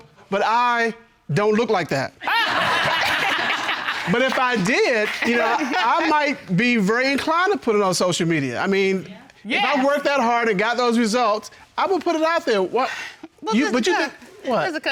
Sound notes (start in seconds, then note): 2.2 all laugh; 12.8 exhales